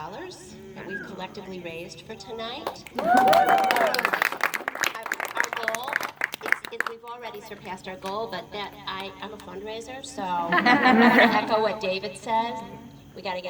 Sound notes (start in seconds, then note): 2.8 applause and audience screaming woo!; 10.2 laughter